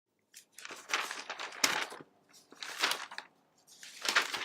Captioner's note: papers rustling